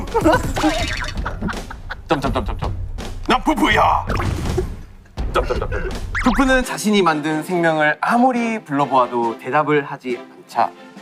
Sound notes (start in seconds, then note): 5.3 the original writer can't stop laughing